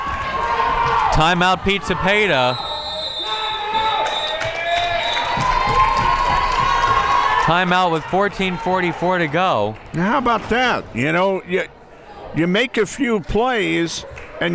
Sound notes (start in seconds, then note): 0.2 crowd members shouting; 2.5 whistle tweeting; 4.0 crowd members cheering